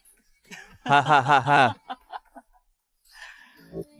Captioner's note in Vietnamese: tiếng cười